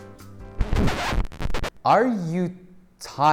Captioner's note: tape reel screeches